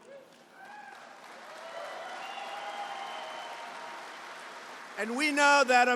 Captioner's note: applause